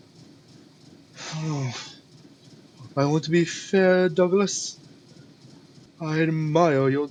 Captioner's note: sigh